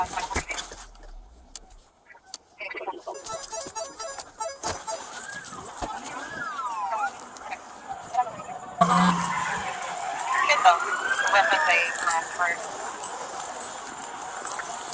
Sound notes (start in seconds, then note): 8.9 sirens wailing; 10.5 radio dispatching in background